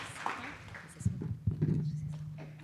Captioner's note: whispering